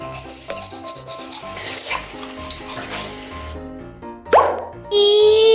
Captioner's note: Gaga Baby slurping